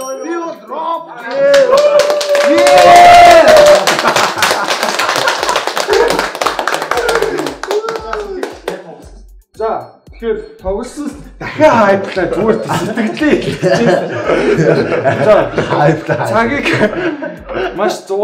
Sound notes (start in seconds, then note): 3.4 applause